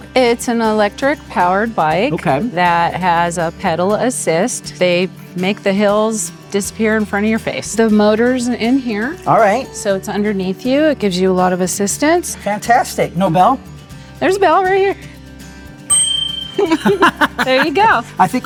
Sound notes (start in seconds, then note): 15.9 bell rigs; 16.5 both laughs